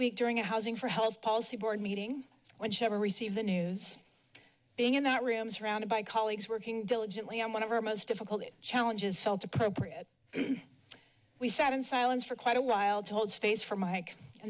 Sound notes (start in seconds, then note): 10.3 clears throat